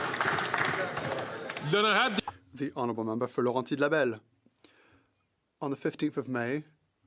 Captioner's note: some Applause